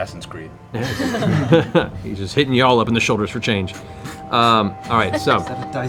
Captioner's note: laughs